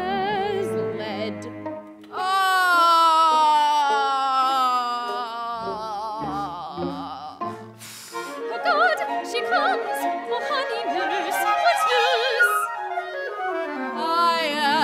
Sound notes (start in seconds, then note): 3.0 groan